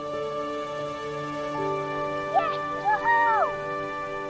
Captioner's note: Emma cheering